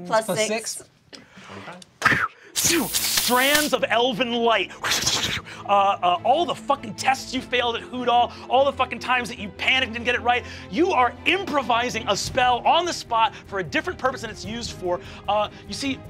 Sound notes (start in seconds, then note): 2.3 whooshing; 5.5 whooshing